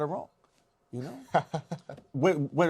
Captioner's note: laughs